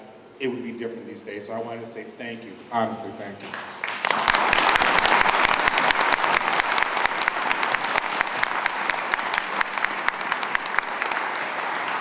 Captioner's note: applause